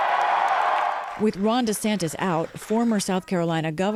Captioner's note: cheering and applause